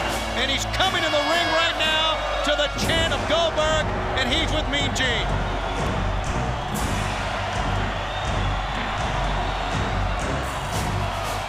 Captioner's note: crowd cheering